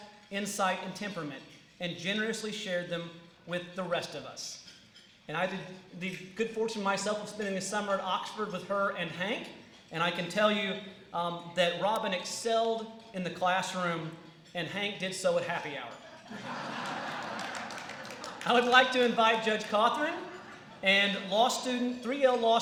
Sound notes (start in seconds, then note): 16.0 laughter